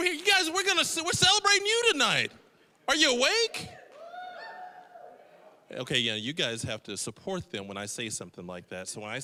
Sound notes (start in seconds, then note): 3.8 scattered cheering